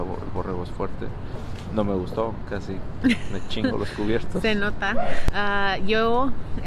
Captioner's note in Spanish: risas